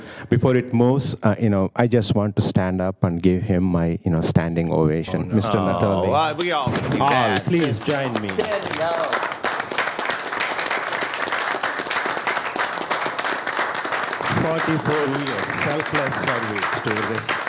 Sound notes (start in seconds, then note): 10.3 applause